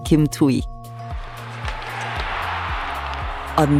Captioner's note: sfx: hockey game